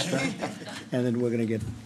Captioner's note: laughter